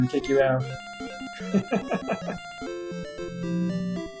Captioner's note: laughs